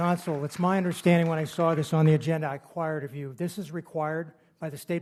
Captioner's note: applause